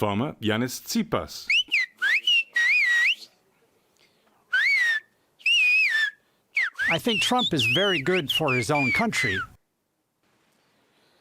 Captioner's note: through translator